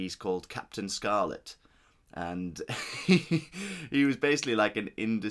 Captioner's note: laughs